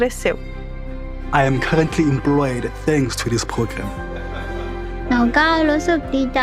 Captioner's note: not speaking english